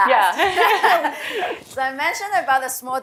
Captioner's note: laughter